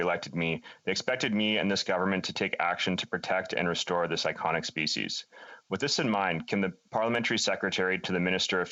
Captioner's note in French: voix de l'interprète